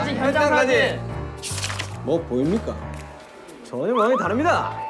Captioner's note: mysterious footstep